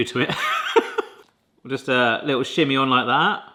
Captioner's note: laughs